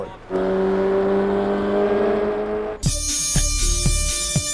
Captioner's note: engine revving